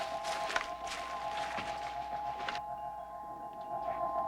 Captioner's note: crystal chiming